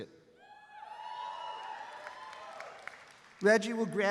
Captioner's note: graduates cheering and clapping